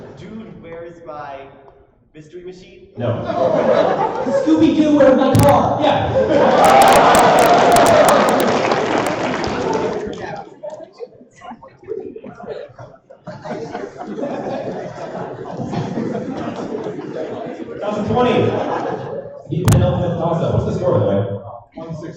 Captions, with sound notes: Dude, where's my Mystery Machine? No. Scooby Dood Where’s My Car? Yeah. [applause and laughter] Tossup 20, the penultimate tossup. What's the score by the way?